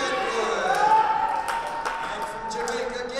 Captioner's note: cheering